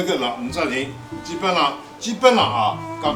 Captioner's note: wu Chinese